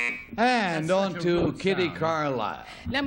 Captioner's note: buzzer